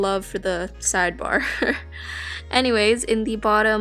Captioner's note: laughs